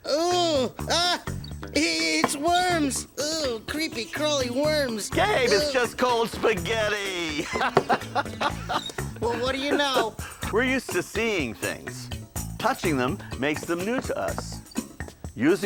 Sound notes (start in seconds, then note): 7.4 man laughing